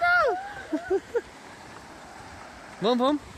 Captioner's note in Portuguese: risos